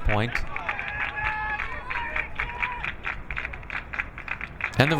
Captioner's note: crowd clapping